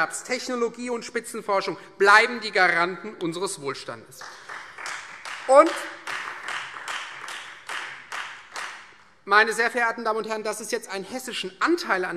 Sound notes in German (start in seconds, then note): 4.1 Beifall Freie Demokraten und vereinzelt AfD